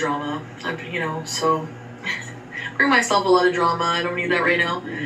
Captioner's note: chuckles